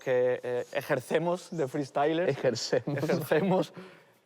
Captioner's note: laughs